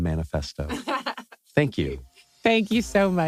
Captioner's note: laugh